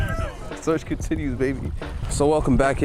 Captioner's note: laugh